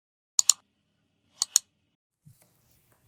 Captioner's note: clicking